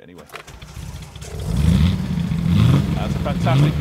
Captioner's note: engine revving loudly